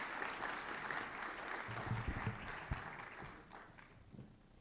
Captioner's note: applause